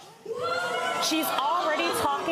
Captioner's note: gallery shouts